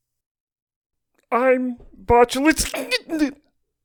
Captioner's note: giggling